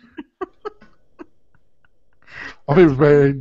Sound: laughing

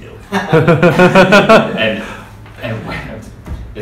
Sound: laughing

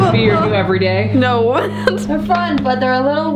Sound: laughing

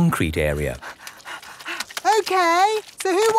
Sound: panting

